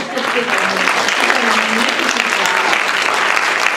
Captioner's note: applause